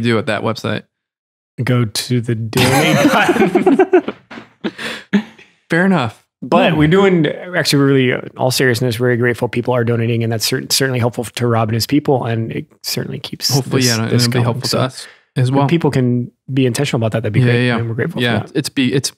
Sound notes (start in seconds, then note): 2.5 Father Innocent laughs; 2.6 laughs